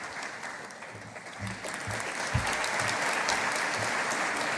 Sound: audience applauding

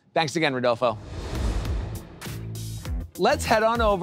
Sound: graphics whoosh; upbeat music

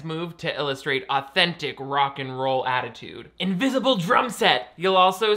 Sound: none

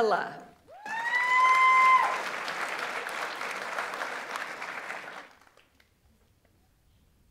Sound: audience member cheers; audience applauds

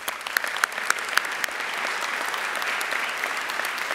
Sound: audience applauding

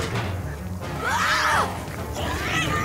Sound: screaming

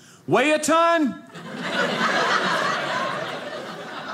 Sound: audience laughing

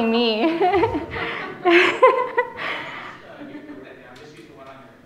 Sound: laughing

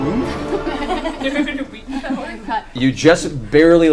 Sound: all laugh

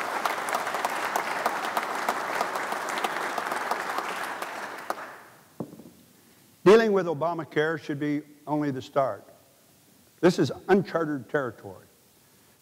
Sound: applause

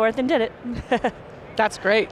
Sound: giggles

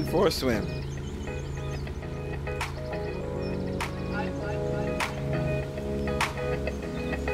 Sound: birds chirping; engine whirring

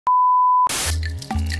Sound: beep; radio Static

